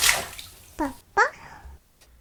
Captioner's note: baby gibberish